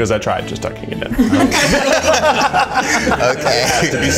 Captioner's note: all laughing